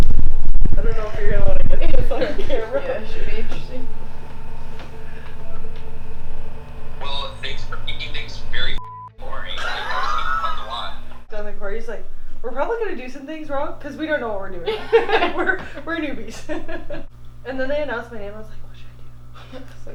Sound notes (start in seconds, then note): 3.9 massage gun noises